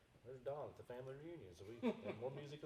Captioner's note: laughing